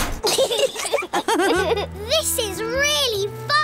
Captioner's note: laughter